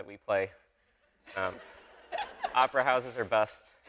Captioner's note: audience laughing